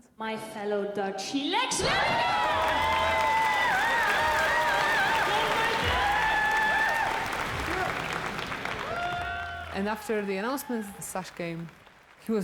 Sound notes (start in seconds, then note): 3.9 applause; 3.9 cheering